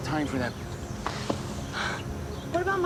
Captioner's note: sighing